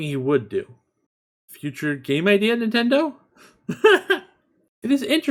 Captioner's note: laughs